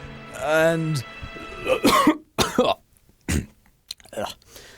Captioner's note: coughs